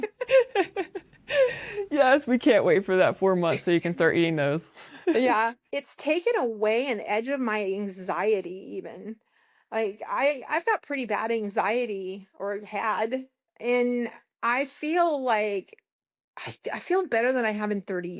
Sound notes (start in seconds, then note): 0.0 laughter; 5.3 laughter